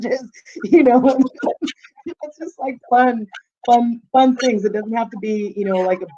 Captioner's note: chuckling